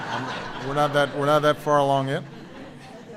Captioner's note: laughter